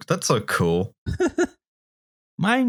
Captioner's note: laughs